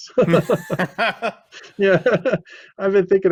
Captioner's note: both laughing